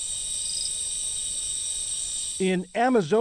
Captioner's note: voice-over